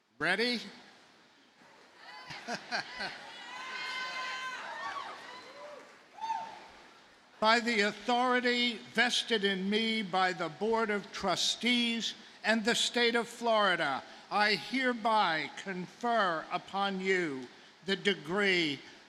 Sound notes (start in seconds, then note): 2.2 laughs; 2.2 audience laughing; 4.6 audience cheers